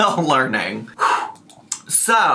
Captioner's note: sighs